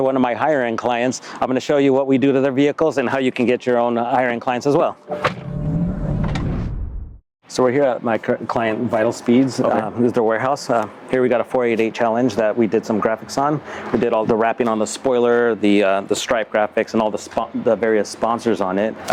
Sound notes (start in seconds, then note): 5.1 door closes; 6.6 wooshing